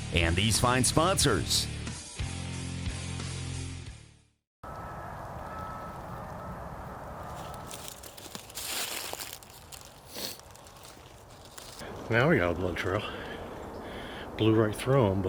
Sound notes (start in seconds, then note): 4.9 leaves crunching